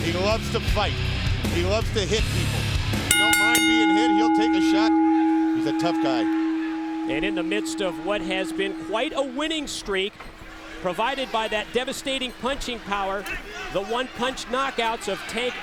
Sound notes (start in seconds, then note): 3.1 bell ringing